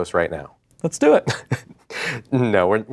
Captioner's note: laughs